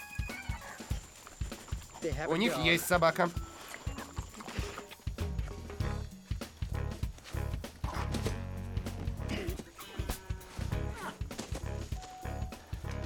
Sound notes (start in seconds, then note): 0.1 panting; 3.6 sniffing; 9.2 grunting; 10.9 rustling